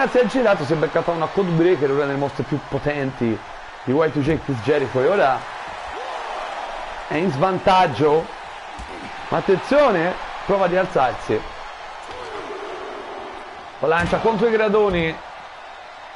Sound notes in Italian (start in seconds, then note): 14.1 Applauso